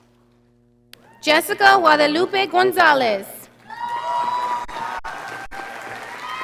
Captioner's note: audience applauding